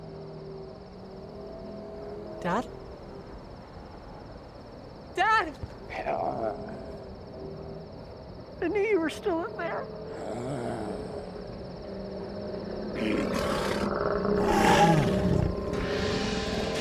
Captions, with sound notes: Dad? Dad! (ZOMBIE WALTER GRUNTS) I knew you were still in there. (ZOMBIE WALTER GRUMBLING) (ZOMBIE SPARTACUS ROARING)